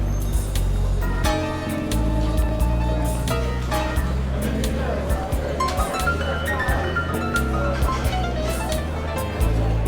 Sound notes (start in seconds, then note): 1.0 diner sounds; 5.8 bluesy piano music